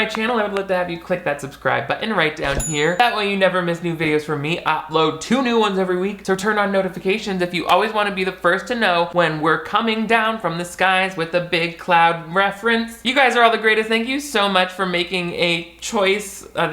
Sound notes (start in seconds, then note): 2.4 bell dings